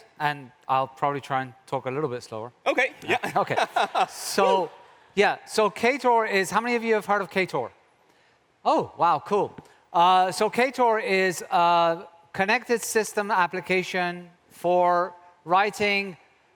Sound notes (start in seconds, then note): 3.1 audience laughs